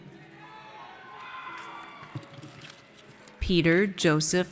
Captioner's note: audience cheers